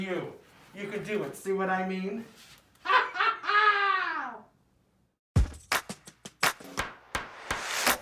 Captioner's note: laughs